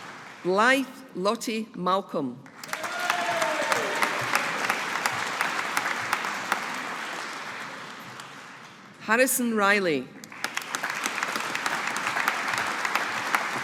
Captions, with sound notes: Blythe Lottie Malcolm. (AUDIENCE APPLAUDING) Harrison Reilly. (AUDIENCE APPLAUDING)